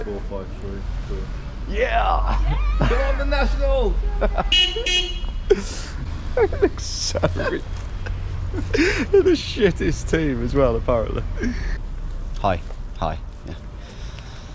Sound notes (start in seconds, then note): 3.7 car horn honks; 4.0 both laughing